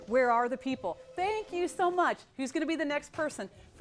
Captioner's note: phone ringing